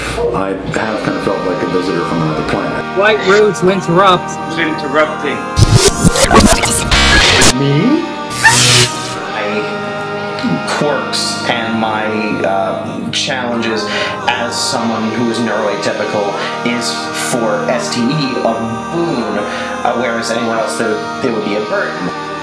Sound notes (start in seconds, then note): 5.6 electronic buzzing